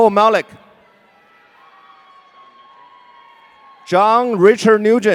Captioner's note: audience cheering